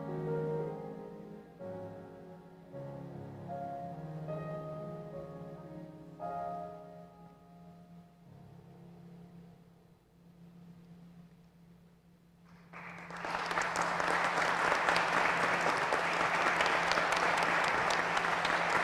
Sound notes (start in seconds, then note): 12.5 applause